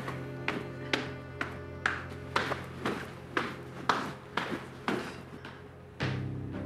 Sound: footsteps

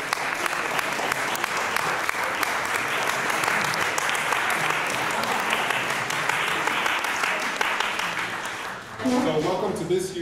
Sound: applause

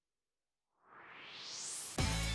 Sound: swoosh

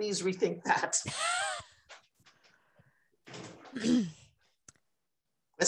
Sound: laughter

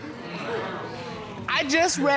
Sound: audience exclaiming

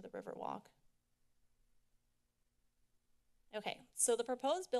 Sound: silence

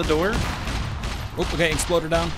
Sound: Exploder Explodes

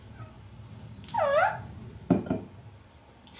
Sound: tweet

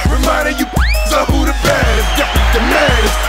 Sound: whistle

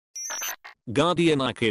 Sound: Ghost chirping

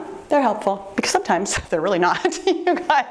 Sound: laughs

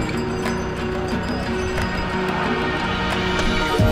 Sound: bells clanging

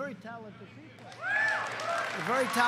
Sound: applause

